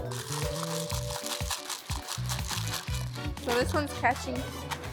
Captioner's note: beads rattling